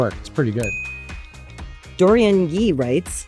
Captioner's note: graphics chimes